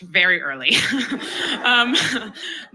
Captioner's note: chuckles